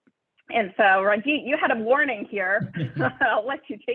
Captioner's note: laughs